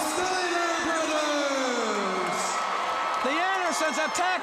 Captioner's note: crowd cheering